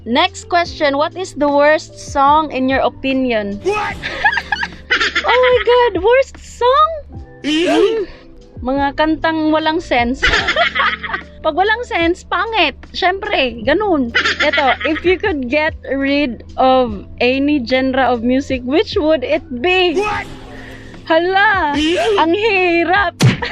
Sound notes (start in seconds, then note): 4.0 hilarious laugh; 10.3 laughs